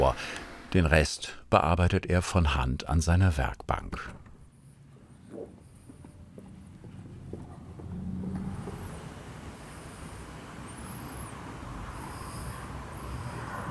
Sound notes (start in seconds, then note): 9.2 traffic noise